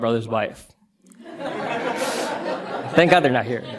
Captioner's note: audience laughter